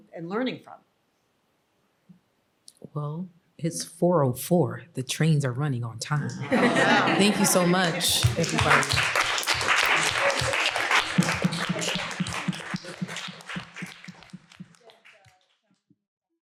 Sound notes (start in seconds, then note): 7.9 applause